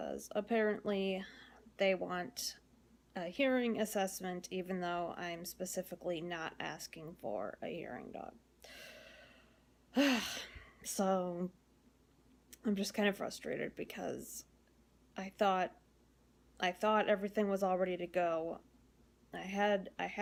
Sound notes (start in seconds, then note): 9.9 frustrated sigh